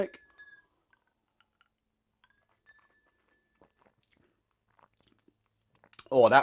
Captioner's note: ice cubes clinking on glass